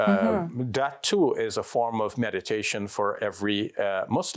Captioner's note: speaks foreign language